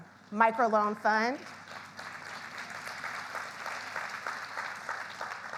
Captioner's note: audience applauds